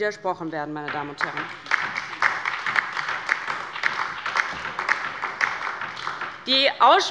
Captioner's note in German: Beifall bei der LINKEN und bei Abgeordneten des BÜNDNISSES 90/DIE GRÜNEN